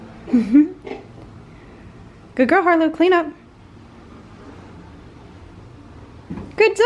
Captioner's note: laughs